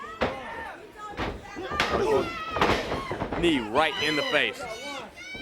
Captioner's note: crowd chatter